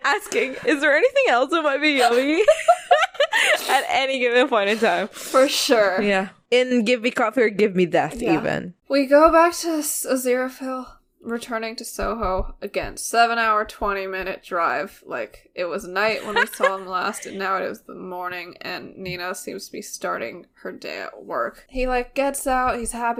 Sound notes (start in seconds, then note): 0.0 laughing; 2.0 both laugh; 16.1 laughs